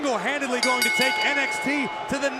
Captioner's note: bell ringing